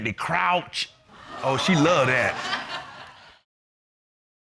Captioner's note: audience exclaiming, laughing